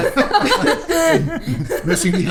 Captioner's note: laughing